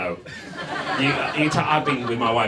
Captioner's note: audience laughs